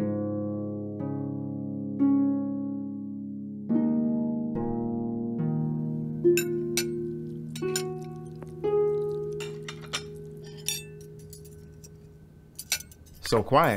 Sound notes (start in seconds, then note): 6.3 cutlery clanging